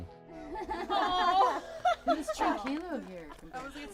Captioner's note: laughing